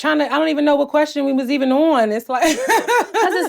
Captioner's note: laughs